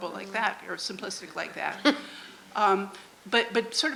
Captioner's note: off camera laughter